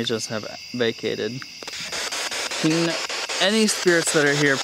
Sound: loud, choppy static

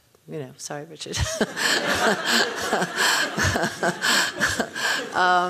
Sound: laughing

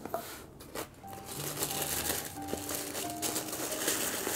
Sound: tissue Paper Rustling

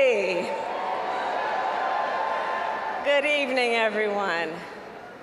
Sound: applause

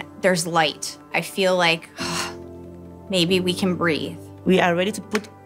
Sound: sighs

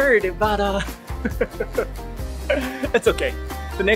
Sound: chuckle

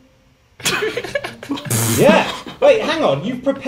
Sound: students laughs

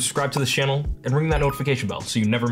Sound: bell chimes

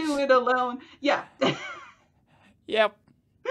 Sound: chuckles

